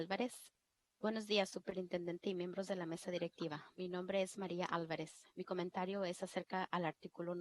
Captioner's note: foreign Language